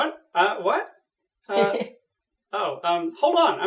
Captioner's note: chuckles